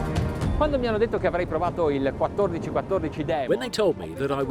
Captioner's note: speaking foreign language